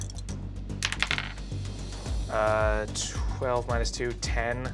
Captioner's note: rolls dice